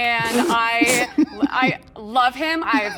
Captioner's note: laughing